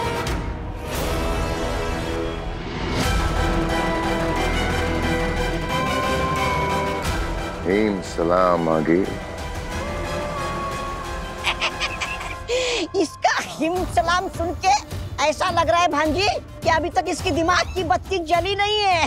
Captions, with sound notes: [suspenseful music] Aageel, "Glory to Himbaash". [giggles] Hearing his "Glory to Himbaash", Aageel, it seems as if, the light bulb in his mind hasn't lit up yet.